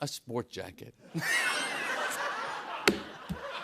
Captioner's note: laughter